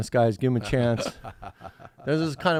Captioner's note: laughing